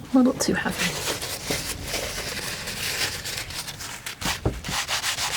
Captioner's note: scratching